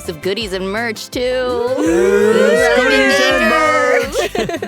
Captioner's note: cheering